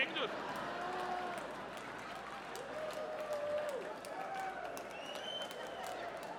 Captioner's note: audience cheering; audience laughing